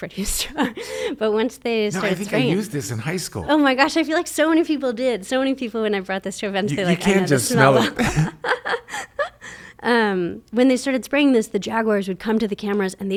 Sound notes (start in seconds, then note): 8.5 laughs